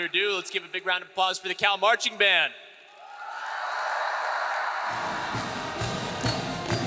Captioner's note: audience applauds; marching band music